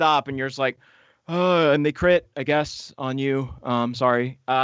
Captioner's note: sighs